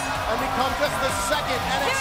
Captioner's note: bell ringing